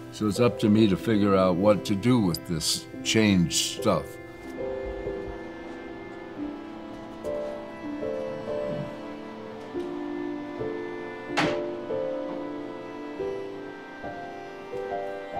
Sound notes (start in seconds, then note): 4.9 soft music; 4.9 tank humming